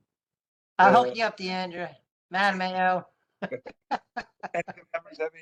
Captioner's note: laugh